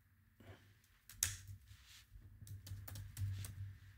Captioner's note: typing